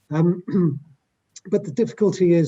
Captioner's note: clears throat